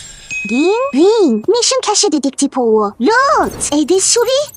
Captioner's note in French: Ding